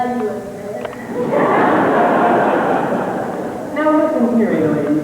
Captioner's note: laughter